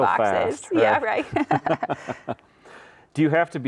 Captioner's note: both chuckle